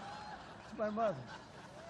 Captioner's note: laughter